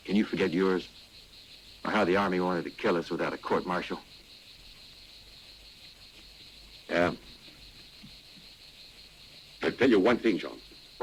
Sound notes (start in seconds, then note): none